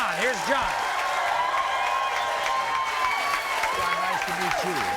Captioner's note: audience cheers